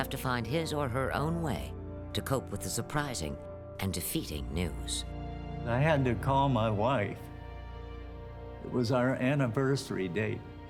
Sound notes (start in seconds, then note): none